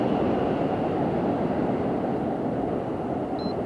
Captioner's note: wind whistling past the camera